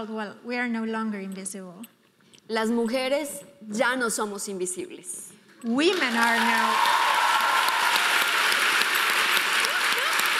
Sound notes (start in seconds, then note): 2.5 speaking in foreign language; 5.9 audience applauding